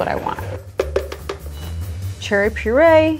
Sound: tapping blender

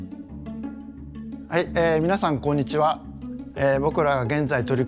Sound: speaking Japanese

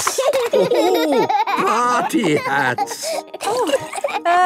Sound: laughing

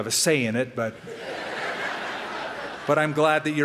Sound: laughter

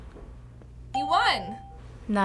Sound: ding

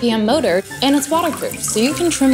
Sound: water pouring

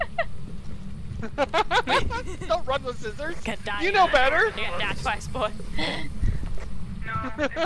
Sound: both laughing

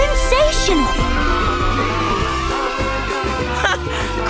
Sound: cheering

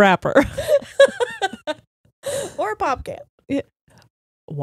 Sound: laughing

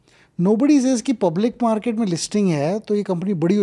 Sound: speaks in Hindi

